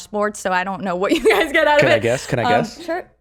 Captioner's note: laughs